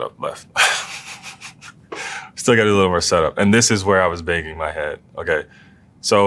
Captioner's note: laugh